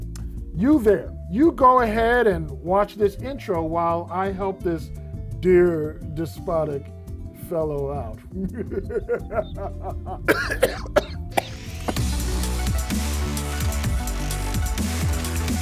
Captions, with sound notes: You there, you go ahead and watch this intro while I help this dear, despotic fellow out (spooky laughing). (coughing) (upbeat intro music)